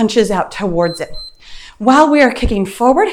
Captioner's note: timer beeps